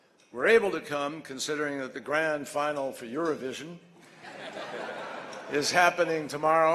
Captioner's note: laughter